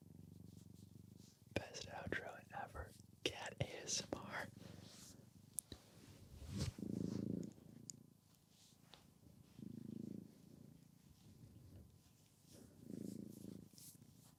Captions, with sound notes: Best outro ever, cat ASMR. (cat purring)